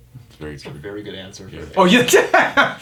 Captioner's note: laughs